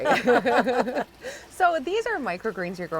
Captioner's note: ladies laughing